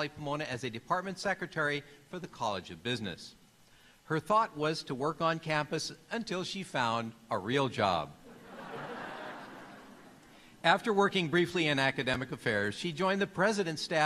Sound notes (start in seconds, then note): 8.2 laughter